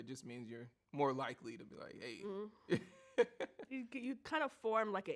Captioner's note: laughs